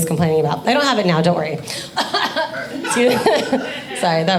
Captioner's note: coughs